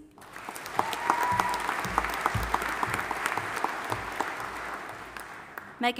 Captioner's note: audience applauding and cheering